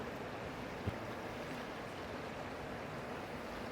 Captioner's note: water rushing